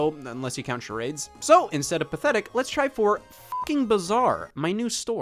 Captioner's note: beep